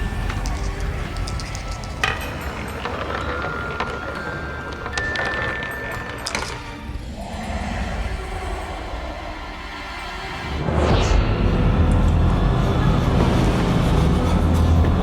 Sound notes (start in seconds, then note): 1.9 marble rattling; 9.9 moves into ominous orchestral music